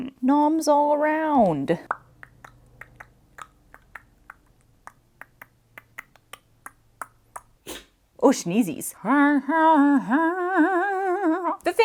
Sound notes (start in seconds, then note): 1.8 mouth percussion; 7.6 puppy sneeze; 9.0 singing, deep in the back of the throat